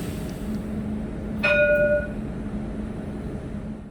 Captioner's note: tram bell